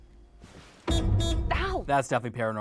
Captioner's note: car horn honking